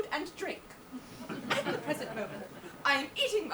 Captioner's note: audience laughs